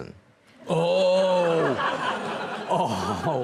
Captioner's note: audience laughs